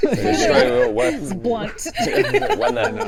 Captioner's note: laughing